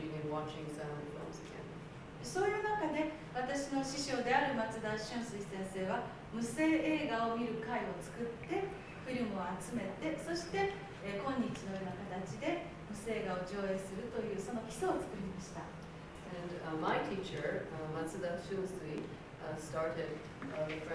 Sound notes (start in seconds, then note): 2.8 speaking Japanes